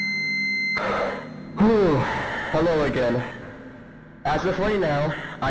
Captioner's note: deep breath